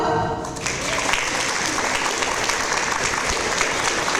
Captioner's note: audience applause